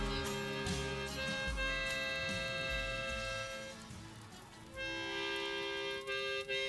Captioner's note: lively harmonica music; flame crackles